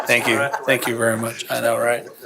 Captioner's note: laughter